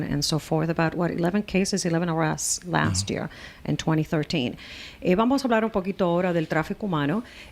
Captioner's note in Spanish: Hablando ingl\s